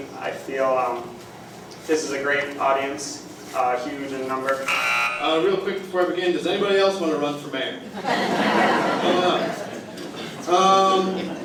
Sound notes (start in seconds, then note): 4.6 buzzer; 7.8 laughter